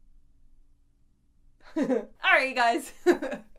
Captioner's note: laughs